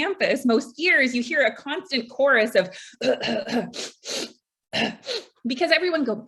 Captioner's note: sniffle; cough